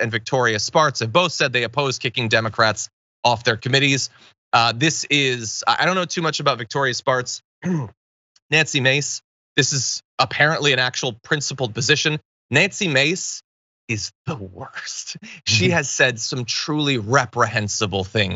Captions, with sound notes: Victoria Spartz have both said they oppose kicking Democrats off their committees. I don't know too much about Victoria Spartz [COUGH], Nancy Mace. This is apparently an actual principled position. Nancy Mace is the worst. She has said some truly reprehensible things,